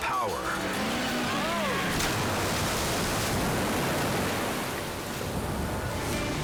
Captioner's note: waves crashing